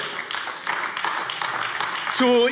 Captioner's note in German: Beifall AfD